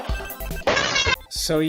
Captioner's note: scream from hell